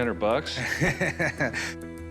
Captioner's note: chuckles